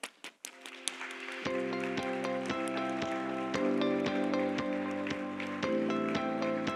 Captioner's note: Aplodit ja musiikkia